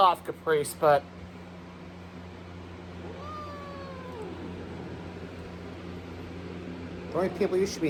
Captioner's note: Caprice yowls